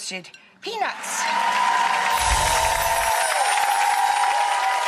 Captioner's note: audience applauds